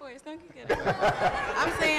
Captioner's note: laughter